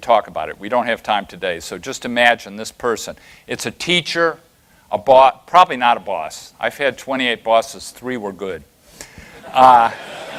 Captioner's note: laughter